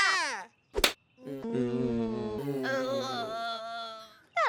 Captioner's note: laughing; groaning